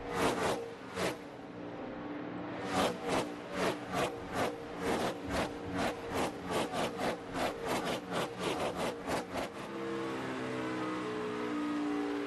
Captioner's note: engines roaring